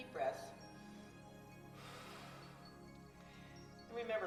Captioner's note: breathes deeply